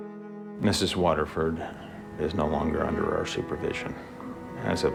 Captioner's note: voiceover